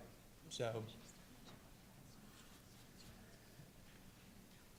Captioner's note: whispers quietly